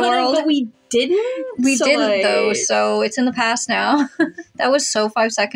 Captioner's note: giggle